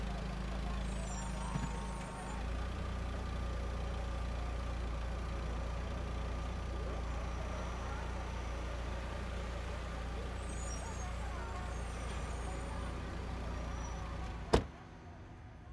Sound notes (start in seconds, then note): 0.2 people talking; 0.2 traffic noise; 3.8 engine running